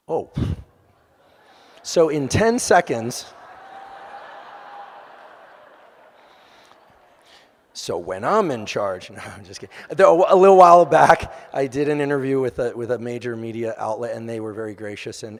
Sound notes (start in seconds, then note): 3.1 audience laughing